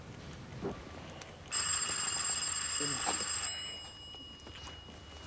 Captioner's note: doorbell rings